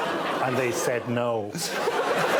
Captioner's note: audience "aww"ing